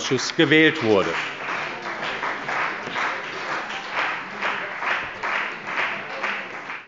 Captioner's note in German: Beifall bei der CDU und dem BÜNDNIS 90/DIE GRÜNEN